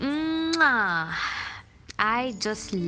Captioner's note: kiss Sound